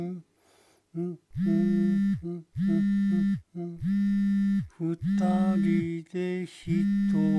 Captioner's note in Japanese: lineメッセージの着信音